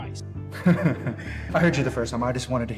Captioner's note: maniacle laugh